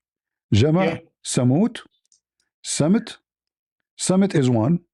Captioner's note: Arabic